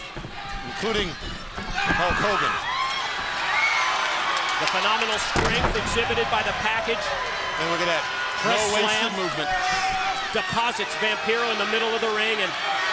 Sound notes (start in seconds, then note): 4.4 crowd cheering